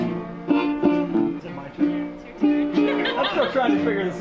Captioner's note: laughter